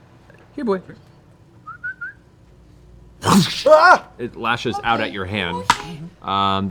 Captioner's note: growls and snaps